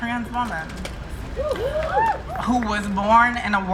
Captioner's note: crowd cheering